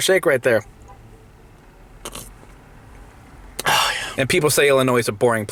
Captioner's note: sipping